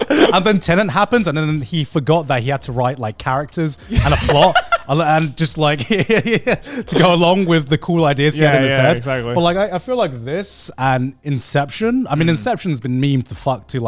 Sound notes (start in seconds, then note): 3.8 laughs